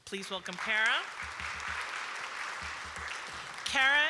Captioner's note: applause